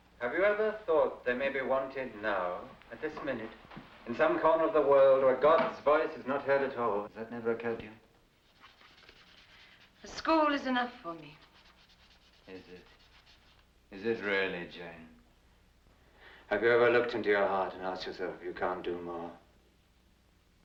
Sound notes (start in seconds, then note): none